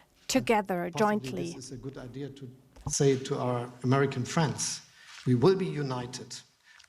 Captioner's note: speaks in English